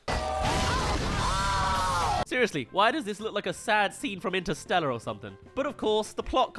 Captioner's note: crash